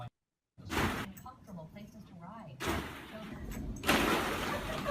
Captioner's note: plastic balls rustling